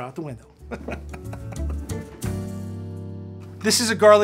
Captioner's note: laughs